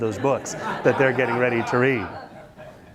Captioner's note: students laugh